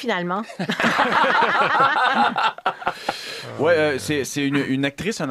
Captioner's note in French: rires